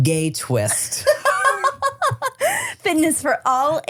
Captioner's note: laughs